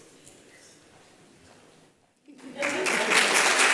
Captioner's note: applause